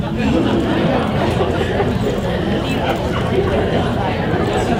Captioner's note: audience laughs